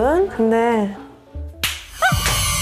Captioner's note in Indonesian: Pop